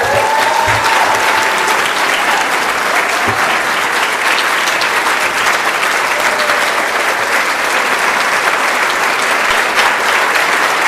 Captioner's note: applause